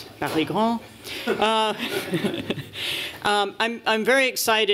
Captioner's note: laughter